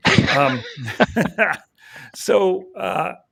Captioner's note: all laughing